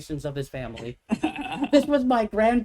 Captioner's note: laughs